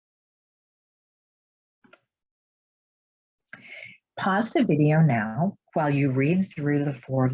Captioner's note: silence